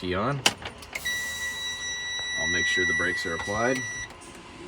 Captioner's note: truck beeping